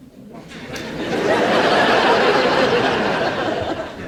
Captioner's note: audience laughs